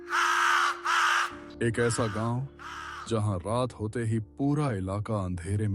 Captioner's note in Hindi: चीखने की आवाज़